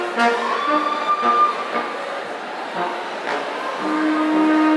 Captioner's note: audience cheering